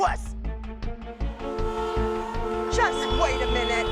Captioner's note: horns honking